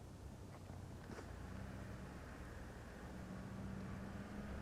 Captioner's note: engine rumbling